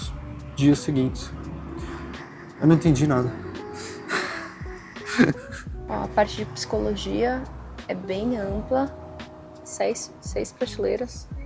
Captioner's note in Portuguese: risadas